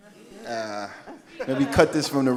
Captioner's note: audience laughing